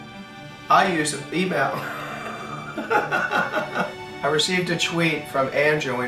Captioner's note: laughing